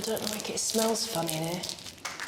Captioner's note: sweet wrapper crackling